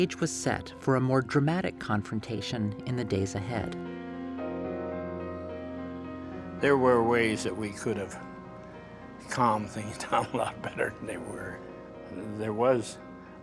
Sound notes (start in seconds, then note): 10.0 giggles